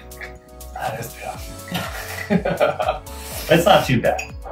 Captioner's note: laughs